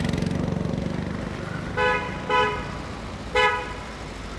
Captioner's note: car honking